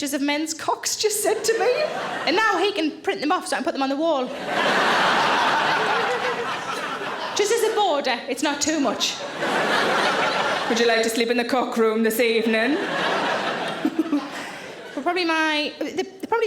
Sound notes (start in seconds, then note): 4.2 audience laughing; 13.7 Sarah laughs